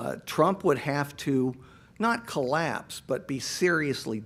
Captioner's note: none